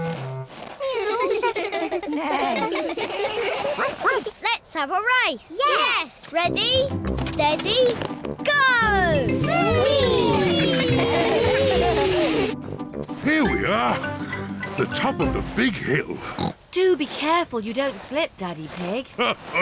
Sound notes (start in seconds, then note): 0.8 all laugh; 3.3 barks; 10.4 giggling; 16.2 snorts